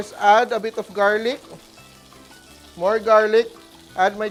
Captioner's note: sizzles